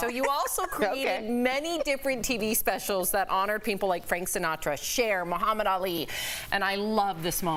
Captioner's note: laughter